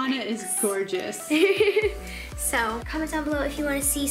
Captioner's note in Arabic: الضحك